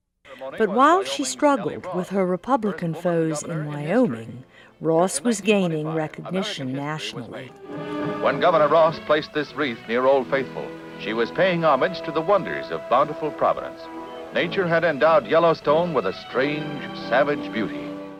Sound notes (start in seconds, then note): 0.2 voiceover; 8.0 voiceover